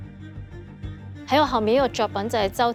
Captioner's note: Cantonese